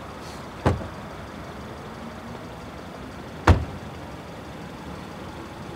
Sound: car doors closing

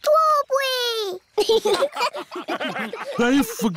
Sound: laughter

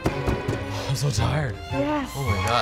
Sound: upbeat orchestra music; rolling pins pounding

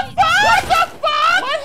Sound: guns blasting

